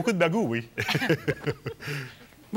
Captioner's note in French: rires